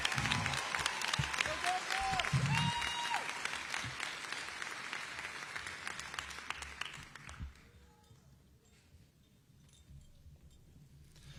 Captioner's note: applause